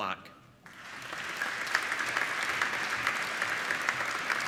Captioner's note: applauding